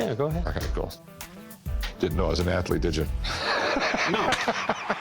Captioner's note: laughs